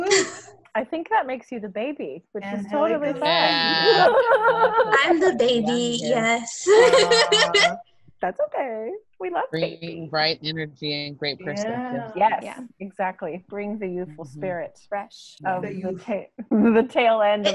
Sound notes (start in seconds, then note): 6.8 cheering and laughter